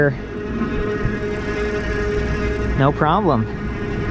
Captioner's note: motor engine roaring